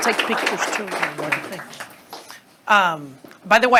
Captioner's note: students applauding